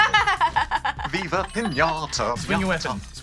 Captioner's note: laughs